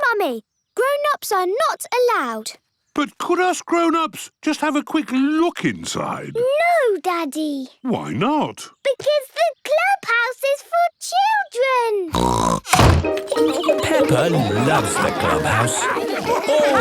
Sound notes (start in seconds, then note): 12.1 snorts